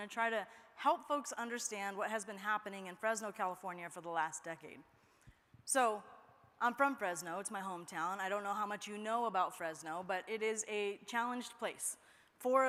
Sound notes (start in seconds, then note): none